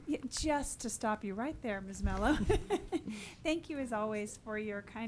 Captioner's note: laughs